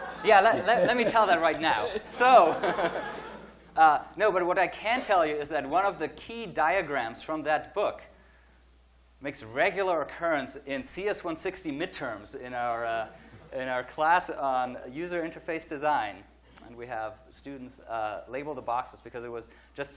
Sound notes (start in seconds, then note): 2.1 audience laughing